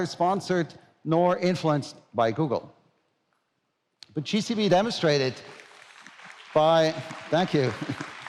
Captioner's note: applause